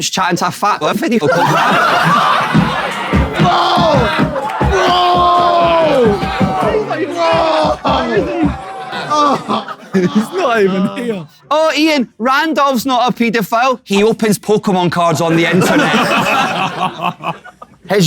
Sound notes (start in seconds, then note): 1.7 people in room laughing; 5.4 people in room laughing; 10.6 KSI moaning; 15.2 people in room laughing